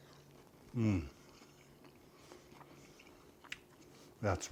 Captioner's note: chewing